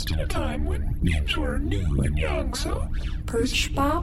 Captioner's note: none